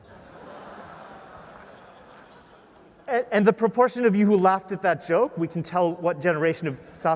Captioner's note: laugh